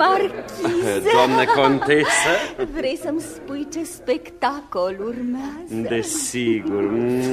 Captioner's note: laughter